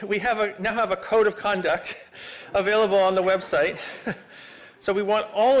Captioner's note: laughter